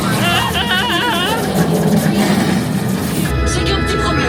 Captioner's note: yelping